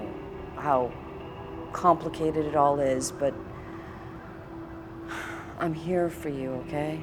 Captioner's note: sighs